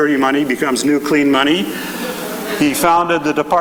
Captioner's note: chuckling